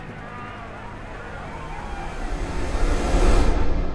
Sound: helicopter

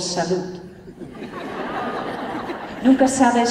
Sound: laughter

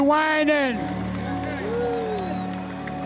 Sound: applause

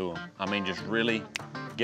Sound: snaps fingers

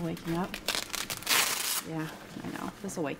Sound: tape ripping

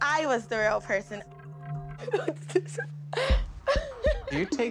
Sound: laughing

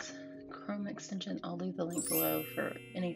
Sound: chime rings

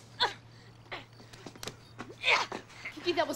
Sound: <i> grunting</i>

